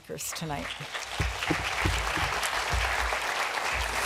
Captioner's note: applause